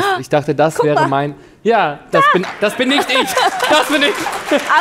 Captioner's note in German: Lachen